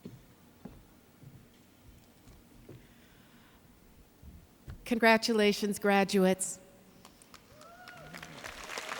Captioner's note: cheers and Applause